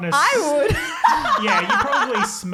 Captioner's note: laughing